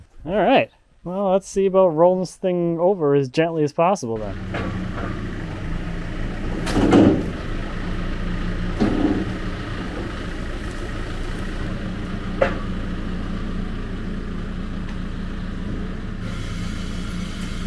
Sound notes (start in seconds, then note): 6.4 log banging; 8.6 engine running